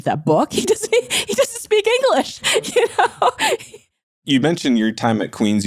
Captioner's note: laughing